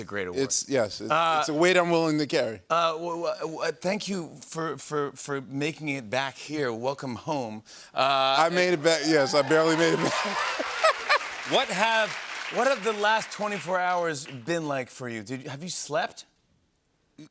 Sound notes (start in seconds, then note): 9.2 laughs